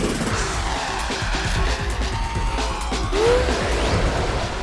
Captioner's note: aircraft engine roaring